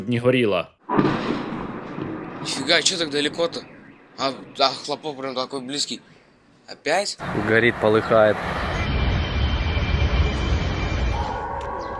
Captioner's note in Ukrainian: серія вибухів